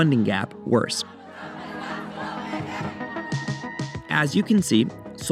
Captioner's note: crowd chanting